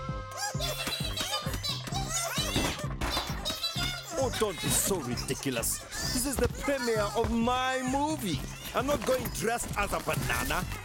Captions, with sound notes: [chattering] Yes, yes, yes, yes, yes! -Oh don’t be so ridiculous! -[Bongolalas chattering] This is the premiere of my movie. I’m not going dressed as a banana!